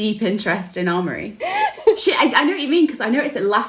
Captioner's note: both laughing